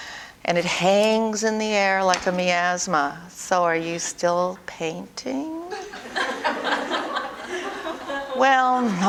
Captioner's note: audience: Laughter